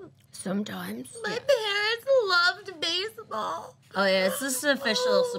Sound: cries

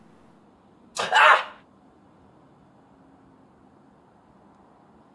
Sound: startled shouting

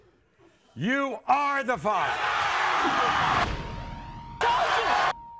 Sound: audience cheers

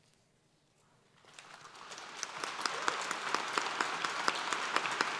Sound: applause

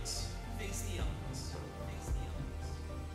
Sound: echoes

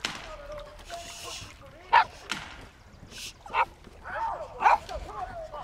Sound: gun firing and men yelling in distance; dog barking

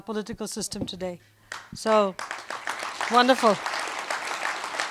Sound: applause

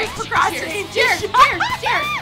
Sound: laughs

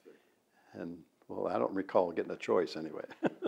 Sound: laughs

